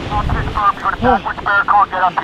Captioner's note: instructor barking orders